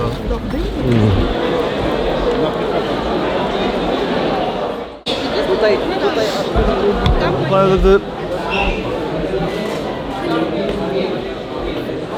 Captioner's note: chatter